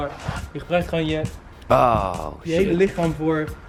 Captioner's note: oooh